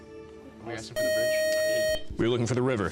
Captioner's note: beep